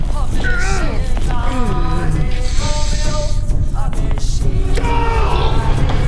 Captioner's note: drums beating; Scott yelps; Scott screams